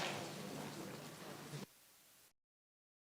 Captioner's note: audience applauds; audience chatter